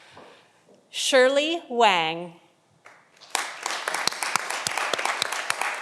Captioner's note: audience applauding